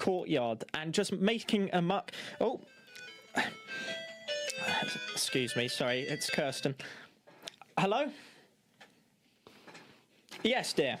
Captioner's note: phone rings